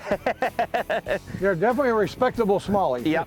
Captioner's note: laughter